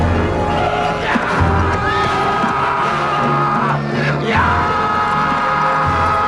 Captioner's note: swordsman shouts; man triumphantly shouting